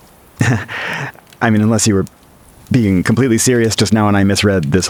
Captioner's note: laughs nervously